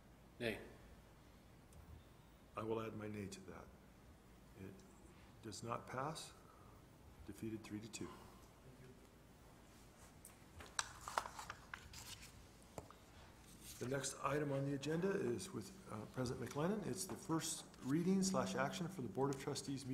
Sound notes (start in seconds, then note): 10.5 paper rustling